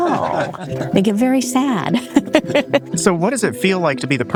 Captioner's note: people laughing; laughs